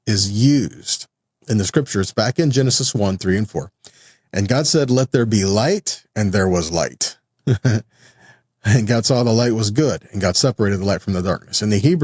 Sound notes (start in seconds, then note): 7.4 laughs